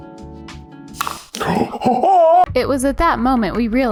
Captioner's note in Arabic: شهقات